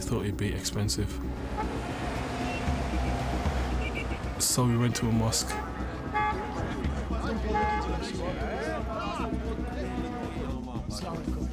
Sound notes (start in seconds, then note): 1.1 horn honks